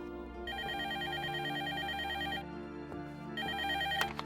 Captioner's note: telephone ringing